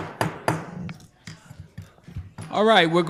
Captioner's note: gavel pounds